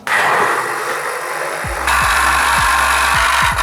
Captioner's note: blender whirring